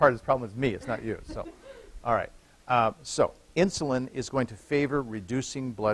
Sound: laughter

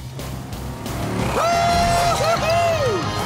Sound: cheering

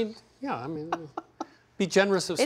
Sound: laughs

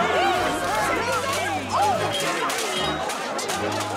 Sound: people clamoring

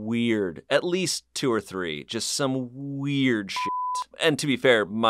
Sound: beep

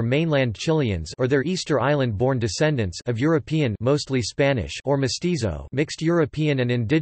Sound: mostly Spanish

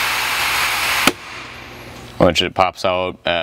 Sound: popping of the temperature gauge

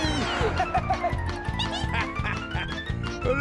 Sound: laughs

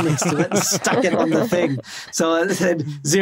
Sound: others laughing

